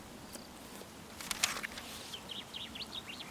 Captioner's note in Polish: przewracanie strony w książce